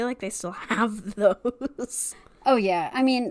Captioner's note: laughs